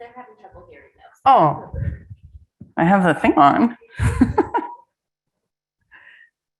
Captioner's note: laughs